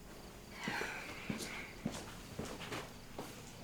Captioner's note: Zooey sighs